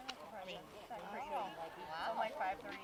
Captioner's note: murmurs; women chattering quietly